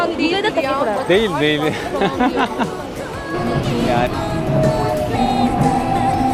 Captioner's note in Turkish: kahkaha